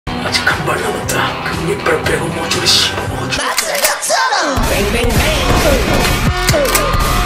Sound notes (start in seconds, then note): 5.4 sound effect: gun shot